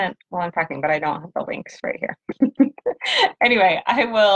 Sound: laughs

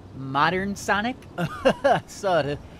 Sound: almost a surfer dude laugh. Almost, but not quite

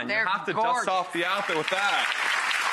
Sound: audience cheers

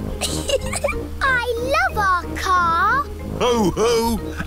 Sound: giggling

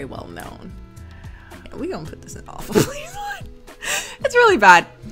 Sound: laughs

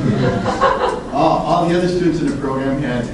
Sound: class laughs

